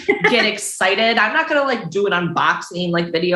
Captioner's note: chuckles